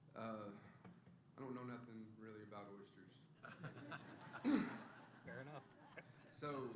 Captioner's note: laughter